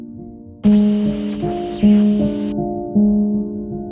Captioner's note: static; haunting piano music